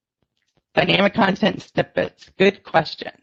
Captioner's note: audio distortion